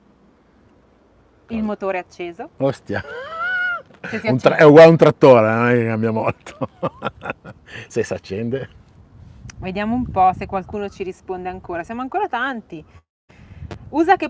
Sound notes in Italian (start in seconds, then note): 2.4 Risate